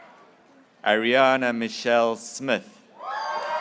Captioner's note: graduates cheering